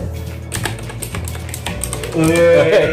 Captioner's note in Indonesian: cetokcetokcetok